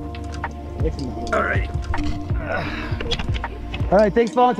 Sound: grunting; grunting

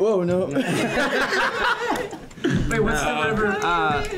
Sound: all laughing

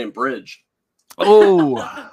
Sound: laughs

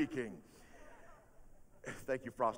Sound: audience laughing

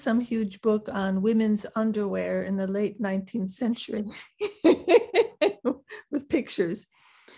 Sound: laughs

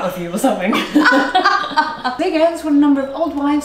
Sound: both chuckling

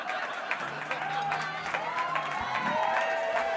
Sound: laughing; applause

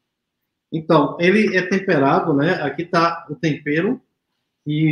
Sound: speaks portuguese

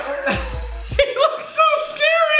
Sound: laughing

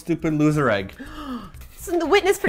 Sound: gasps

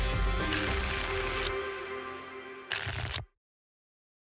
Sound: tickets shuffling

